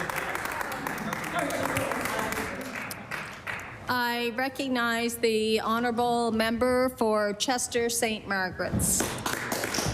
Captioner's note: applause